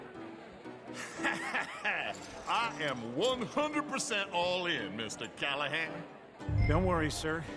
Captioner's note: chuckles